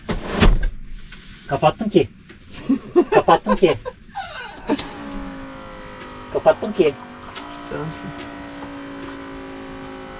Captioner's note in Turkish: kahkaha